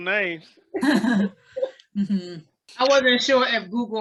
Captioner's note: laughs